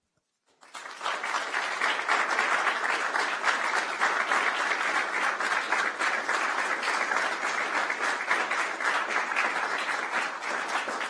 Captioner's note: applause